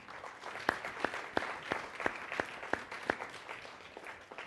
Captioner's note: applause